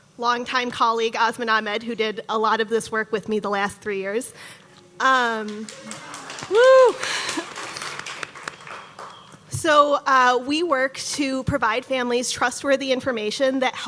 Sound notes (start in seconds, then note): 5.5 audience cheering